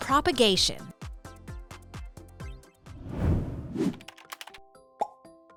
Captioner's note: upbeat music; screen swooshing; icon popping; keys clicking